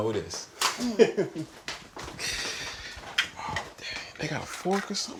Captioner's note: Reed laughing